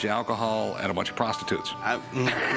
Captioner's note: laughs